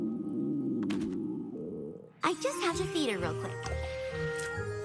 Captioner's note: ststomach growowl